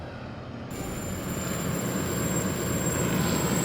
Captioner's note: whirring